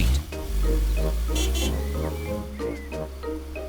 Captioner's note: horn honks